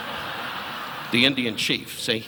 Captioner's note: audience laughing